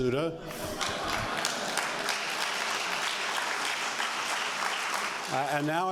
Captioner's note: applause